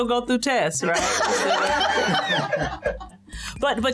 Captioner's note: laughter